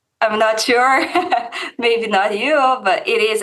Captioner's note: laughs